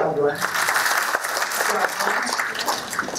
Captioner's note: applause